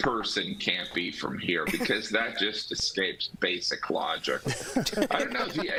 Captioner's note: laughter